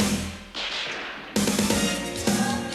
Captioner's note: gun firing